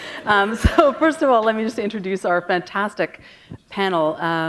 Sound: chuckle

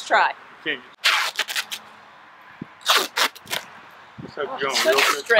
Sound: duct Tape sounds

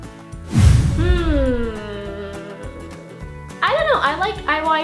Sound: hhhhhhhmmmmmmmm

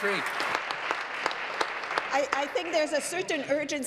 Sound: applause

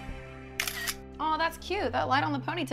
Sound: camera shutter

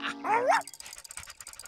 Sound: laughing

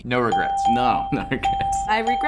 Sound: chuckles

